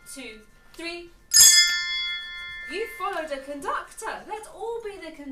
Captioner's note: bell sounds